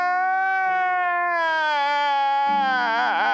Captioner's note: man crying